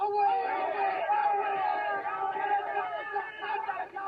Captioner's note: yelling